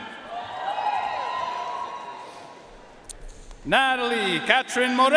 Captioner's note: audience cheering and applauding